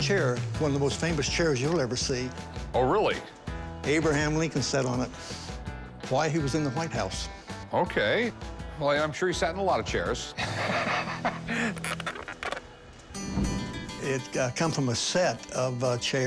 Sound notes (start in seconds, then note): 10.4 laughs; 11.3 chair creaks